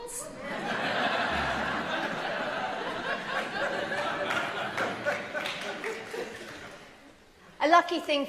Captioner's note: laughter